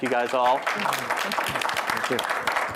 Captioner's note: applause